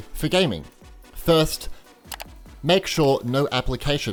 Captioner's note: various mouse clicks